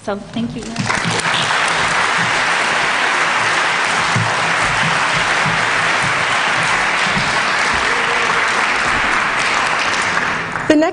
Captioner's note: applause